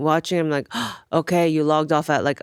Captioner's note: gasps